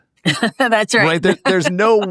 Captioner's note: laugh